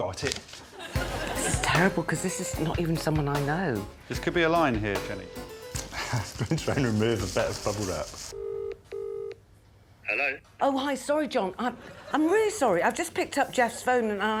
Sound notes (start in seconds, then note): 10.1 line ringing